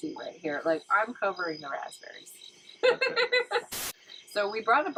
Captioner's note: laughing